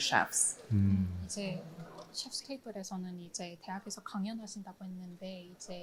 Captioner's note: both speaking in foreign language